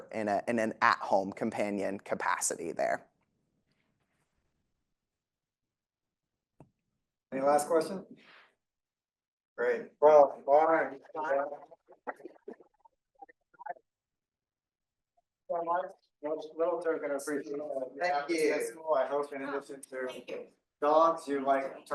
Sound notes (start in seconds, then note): 11.7 speaking faintly